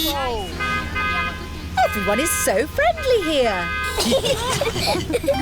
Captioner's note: italians honk back; honking; all giggling